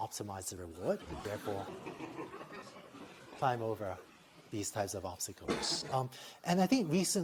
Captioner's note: laughter